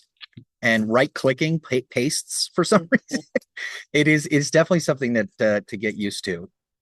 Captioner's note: laughs